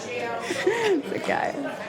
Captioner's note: laughter